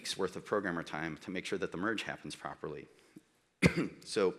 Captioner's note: coughs